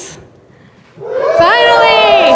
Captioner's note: audience applause